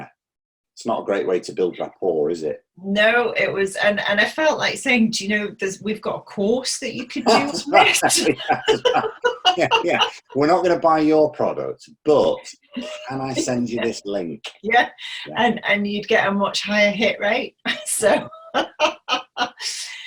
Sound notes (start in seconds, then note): 7.2 both laughing; 18.9 laughing